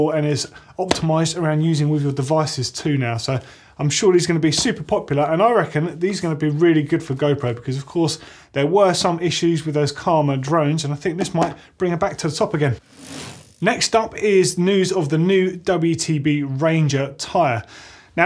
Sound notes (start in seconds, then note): 12.8 bicycle wheel whirring